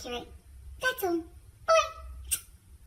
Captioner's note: smooch